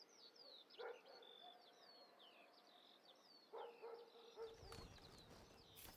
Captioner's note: birds chirping